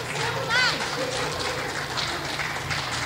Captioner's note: clapping